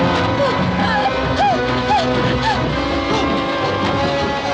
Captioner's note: gasping